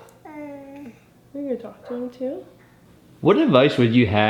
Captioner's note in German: Murmelt